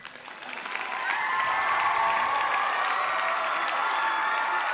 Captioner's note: cheers and applause